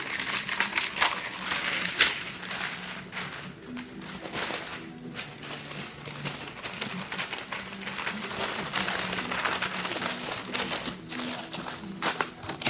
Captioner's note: parchment paper crinkling